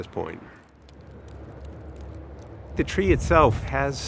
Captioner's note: wind blowing